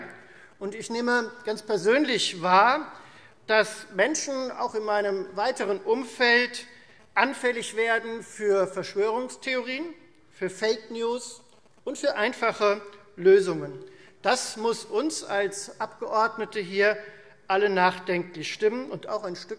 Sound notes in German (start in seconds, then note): none